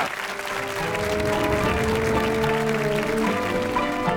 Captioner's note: audience applauds